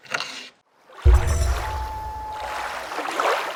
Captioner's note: water rushing, loon calling